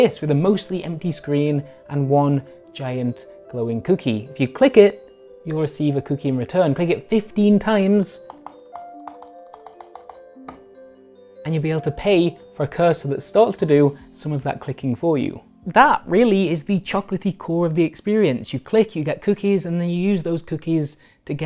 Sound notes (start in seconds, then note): 8.2 clicking